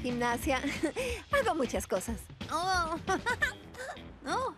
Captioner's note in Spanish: tarareando canción